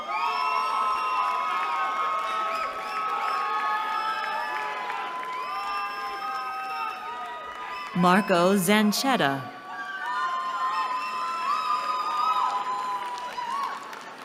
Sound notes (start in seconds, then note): 0.0 cheering; 9.6 cheering